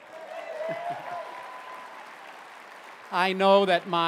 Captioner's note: applause; chuckling